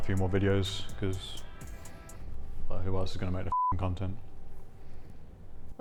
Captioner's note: beep